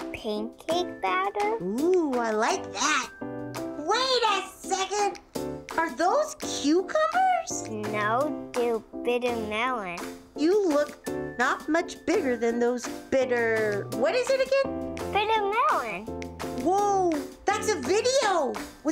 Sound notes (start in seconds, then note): none